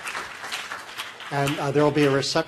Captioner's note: applause